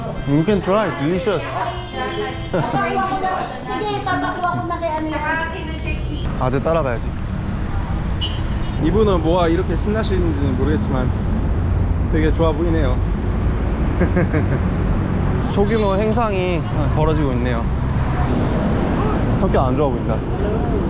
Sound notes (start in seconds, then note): 4.6 exceptionally noisy lobby